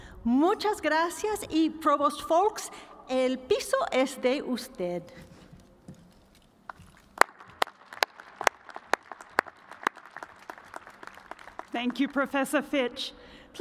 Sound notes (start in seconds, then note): 10.5 applause